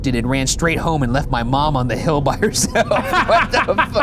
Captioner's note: laughs